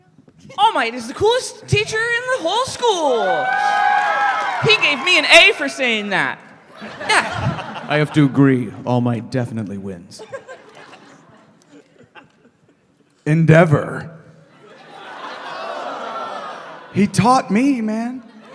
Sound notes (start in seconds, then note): 2.5 audience cheers and applauds; 14.4 conflicted audience reaction; 15.9 audience: "ohhh/oooh"